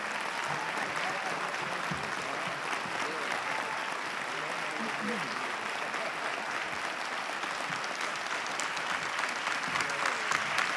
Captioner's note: applause